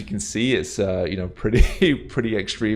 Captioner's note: chuckles